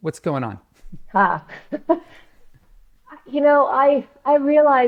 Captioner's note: chuckles